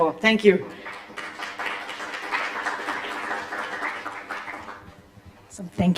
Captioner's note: applause